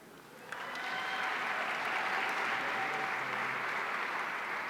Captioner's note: audience applauding